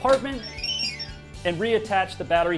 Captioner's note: electronic beeping